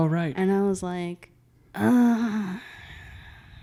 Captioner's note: groans